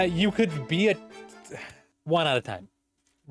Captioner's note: disappointed sigh